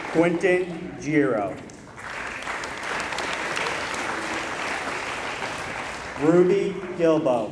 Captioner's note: applause